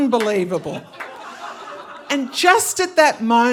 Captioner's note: audience laughing